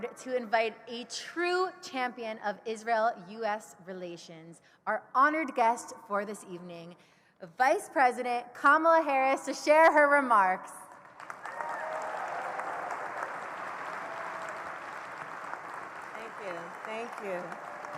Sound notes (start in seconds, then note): 10.8 applause